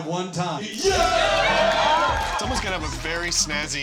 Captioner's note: cheers and applause